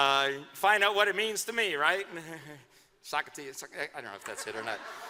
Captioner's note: laughter